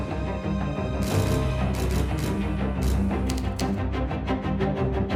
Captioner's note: cameras clicking